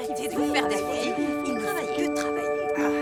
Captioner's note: overlapping chatter